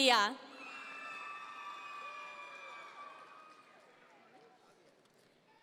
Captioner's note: audience members cheer